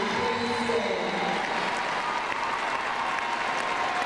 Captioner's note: crowd cheering